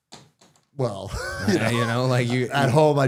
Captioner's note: laughing